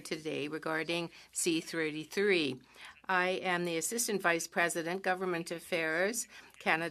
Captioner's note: speaking French